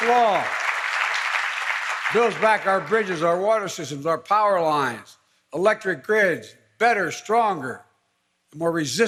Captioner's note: applause